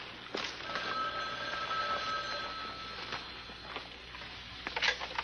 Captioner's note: phone ringing